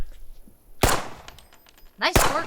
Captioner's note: guns firing